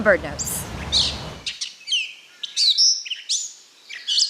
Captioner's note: birds chirping